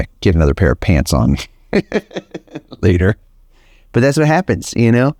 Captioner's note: laughs